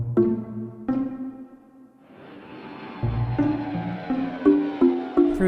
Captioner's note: jet engine